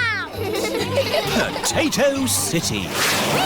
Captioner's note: all giggling